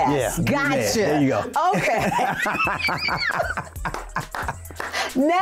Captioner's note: laughter